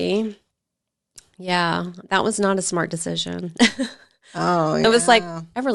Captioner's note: chuckles